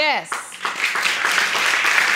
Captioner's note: audience claps